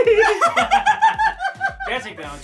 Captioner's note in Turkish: Gülüyorlar